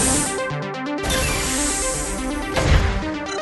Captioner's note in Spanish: puerta abriéndo; puerta cerrándose